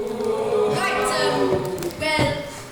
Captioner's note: audience oohs